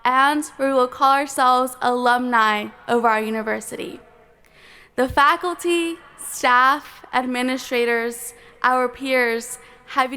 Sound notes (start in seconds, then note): none